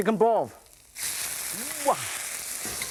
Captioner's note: sizzling